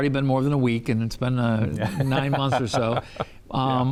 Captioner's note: laughs